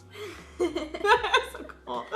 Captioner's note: laughs